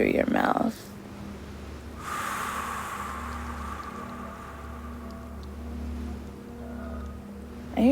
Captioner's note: exhales with more power